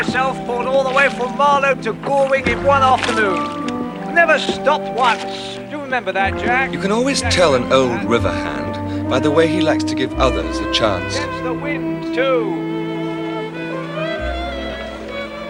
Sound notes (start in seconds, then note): none